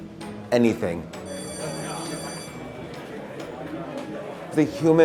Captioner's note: bell rings